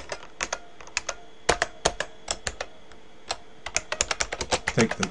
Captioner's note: typing